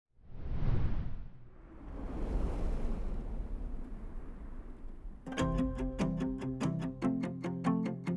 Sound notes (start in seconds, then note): 0.2 logo whooshes; 5.2 upbeat music